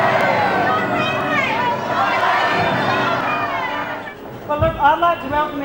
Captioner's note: crowd yelling; crowd